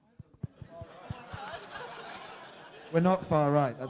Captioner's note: crowd laughing